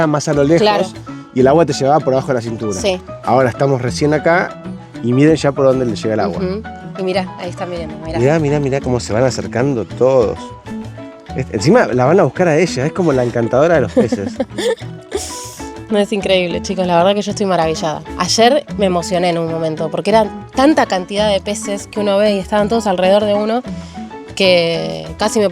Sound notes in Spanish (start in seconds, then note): 13.8 risas